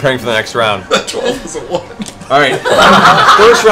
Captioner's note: laughs; laughter